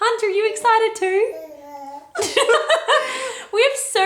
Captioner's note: laughs